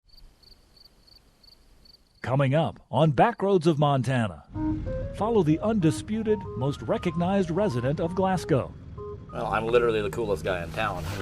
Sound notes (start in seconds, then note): 0.0 crickets chirping